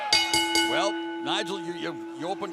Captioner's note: crowd chatter; bell ringing